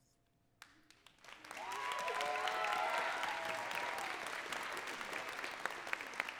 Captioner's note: audience cheering and clapping